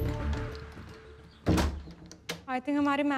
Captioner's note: Door closes